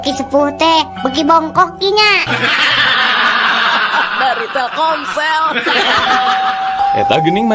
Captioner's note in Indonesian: tertawa